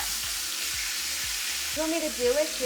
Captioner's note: pork chops sizzling